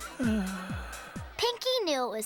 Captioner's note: sighing